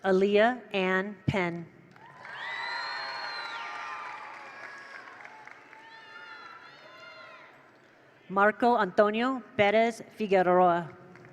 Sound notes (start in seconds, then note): 1.9 attendees applaud; 1.9 attendees cheer; 11.0 attendees applaud; 11.0 attendees cheer